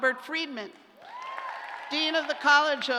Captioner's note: cheers